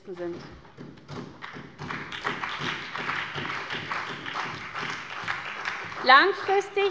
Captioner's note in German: Beifall bei der SPD